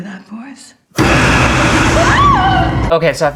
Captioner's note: screams!!